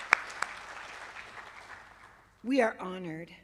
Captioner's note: applause